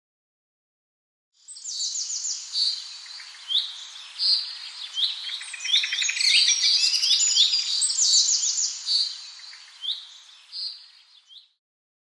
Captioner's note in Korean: 새들의 지저귐